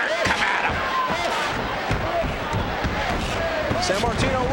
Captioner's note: crowd clamoring